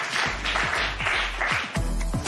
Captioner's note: applause